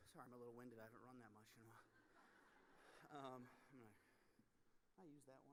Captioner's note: audience laughing